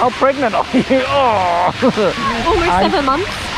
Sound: groans

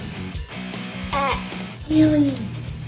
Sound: bleating

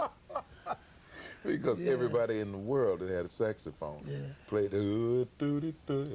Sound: humms

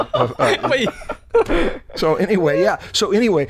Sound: laughter

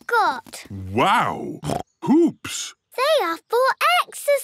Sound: snorts

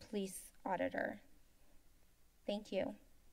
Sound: silence

